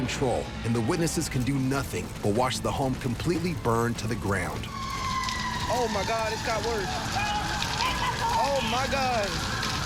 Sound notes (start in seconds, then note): 4.2 sirens get louder